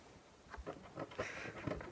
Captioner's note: laughs